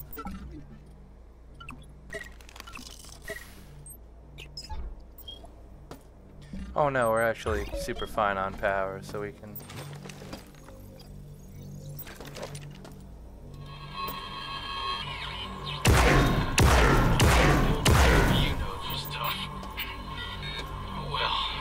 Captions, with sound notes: Oh no, we're actually super fine on power, so we can (gunshots) (gunshots) - You know this stuff. Oh well.